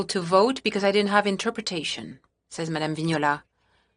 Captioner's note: speaking french